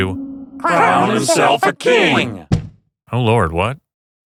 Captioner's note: many muppet voices